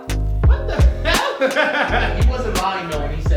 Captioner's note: laughs